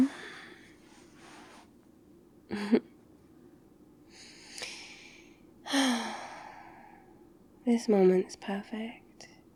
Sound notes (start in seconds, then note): 1.9 sighs; 1.9 small laugh